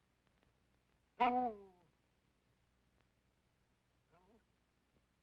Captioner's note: dog whimpering